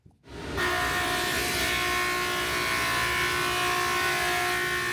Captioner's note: electric saw whirring